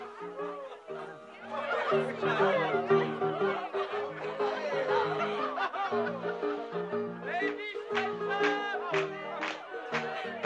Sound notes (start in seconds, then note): 0.0 chattering and laughing; 7.8 clapping